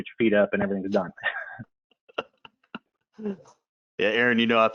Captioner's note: laughing